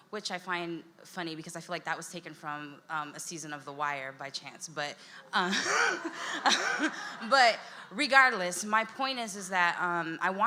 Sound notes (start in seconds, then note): 5.4 laughs; 5.6 audience laughs